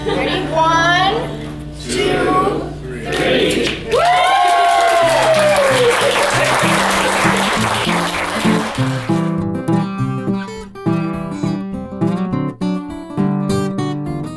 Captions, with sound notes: Ready? One, two, three! (crowd applauds) (instrumental music)